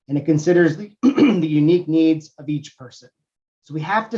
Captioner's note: cough